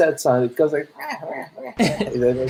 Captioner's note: purring; laughter